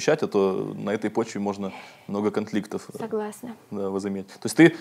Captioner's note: sighs